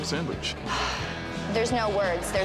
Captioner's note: sighs